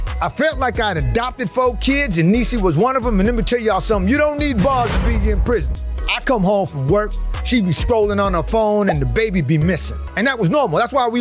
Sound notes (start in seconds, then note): 4.5 prison bars clanging